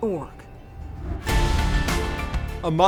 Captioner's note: graphics whooshing; exciting music